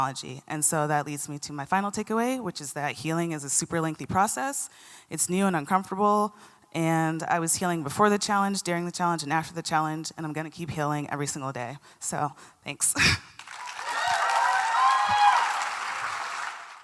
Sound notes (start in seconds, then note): 13.3 applause and cheers